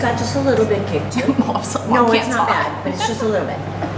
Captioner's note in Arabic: ضحك